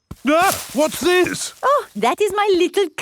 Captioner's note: exclaims